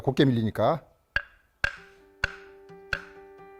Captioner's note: hammering sound